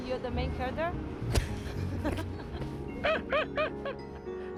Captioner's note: both chuckling